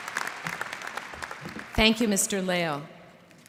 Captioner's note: applause